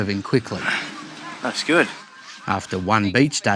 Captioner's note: sighs